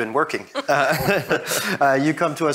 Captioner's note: both laugh